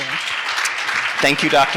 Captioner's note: audience applauds